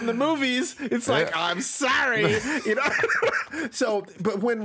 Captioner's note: laughs